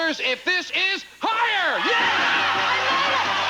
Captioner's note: audience cheering